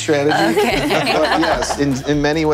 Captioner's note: panelists laughing